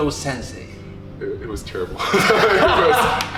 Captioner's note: laughing